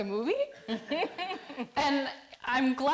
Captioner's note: audience laughing